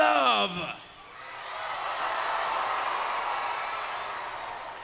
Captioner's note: crowd cheers